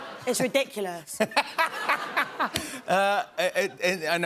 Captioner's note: laughter